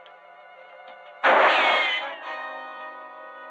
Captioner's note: gunshot